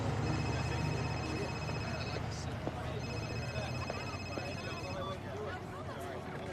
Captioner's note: phone ringing